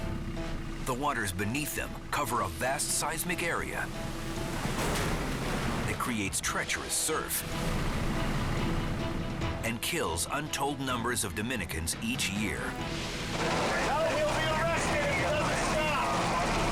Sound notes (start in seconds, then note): 3.5 waves crashing